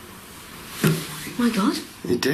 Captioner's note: tapping